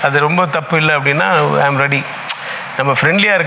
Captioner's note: continues in English